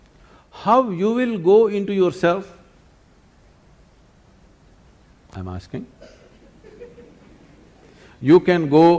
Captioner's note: laughter